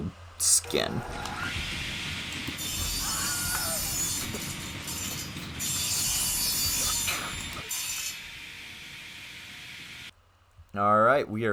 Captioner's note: horrifying blade noises + screaming